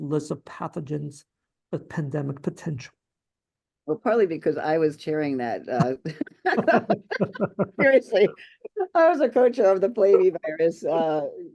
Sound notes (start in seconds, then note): 5.8 laughter